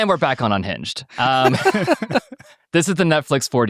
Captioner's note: participants laughing